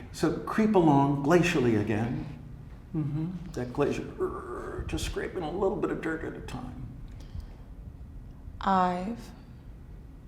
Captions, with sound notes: So creep along glacially again. Mm hmm. That glacier (creeks) just scraping a little bit of dirt at a time. I've made